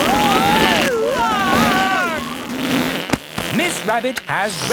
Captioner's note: screaming; crowd gasps